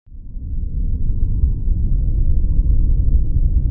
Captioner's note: low rumbling